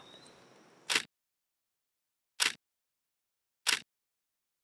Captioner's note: sound of camera shutter